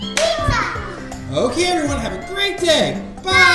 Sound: voiceover

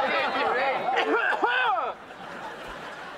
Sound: coughing

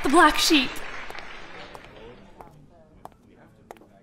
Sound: footsteps approaching

